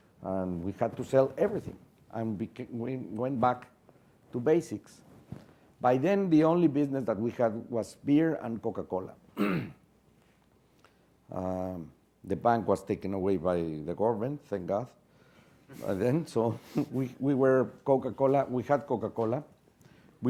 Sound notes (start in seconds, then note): 9.3 cough